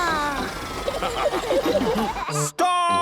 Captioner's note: all laughing